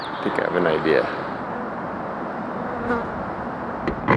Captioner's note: fly buzz